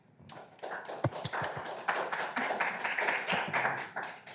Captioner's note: attendees applauding